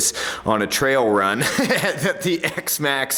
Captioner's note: laughs